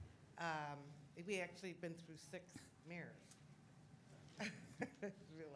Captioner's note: laughs